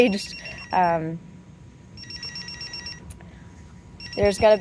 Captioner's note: pager beeping